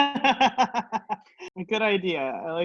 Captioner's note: laughs